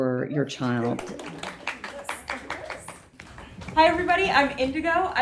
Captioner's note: audience applauding